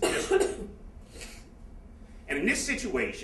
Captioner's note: coughing